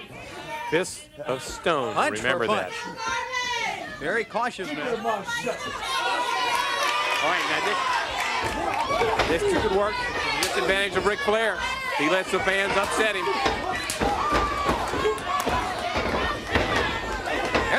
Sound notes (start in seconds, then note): 0.0 crowd cheering; 8.7 crowd chatter; 10.6 crowd cheering